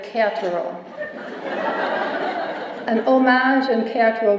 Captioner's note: laughter